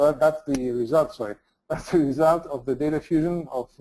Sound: laughs

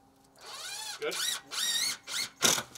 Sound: drill whirring

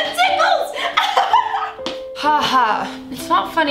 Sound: somber piano music; laughs

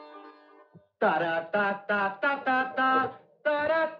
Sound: humming

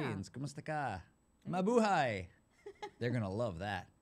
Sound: foreign language

